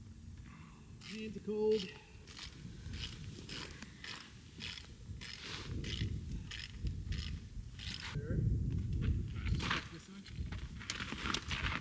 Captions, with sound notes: (scraping) There. Just like this one.